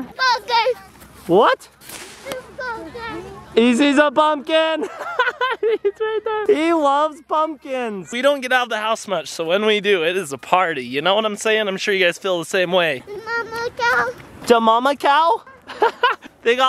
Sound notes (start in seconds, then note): 4.8 laughing